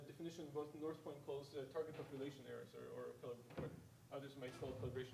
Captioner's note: speaking faintly